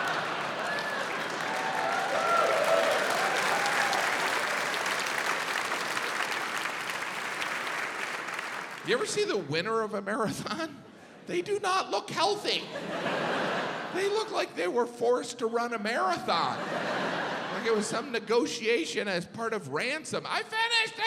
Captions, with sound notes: (audience laughs) (audience cheering, applauding) You ever see the winner of a marathon? They do not look healthy. They look like they were forced to run a marathon. Like it was some negotiation as part of ransom.